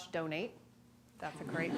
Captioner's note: laughter